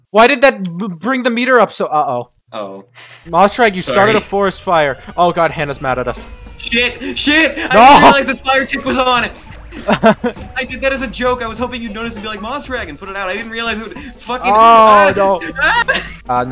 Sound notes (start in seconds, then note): 9.5 laughs